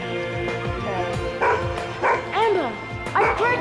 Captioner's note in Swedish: skällande